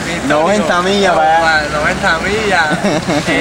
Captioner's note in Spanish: risas